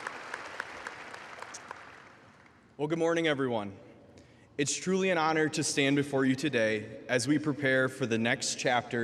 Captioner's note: applause